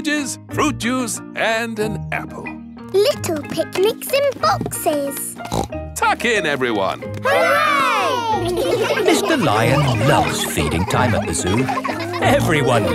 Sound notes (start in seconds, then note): 5.4 snorts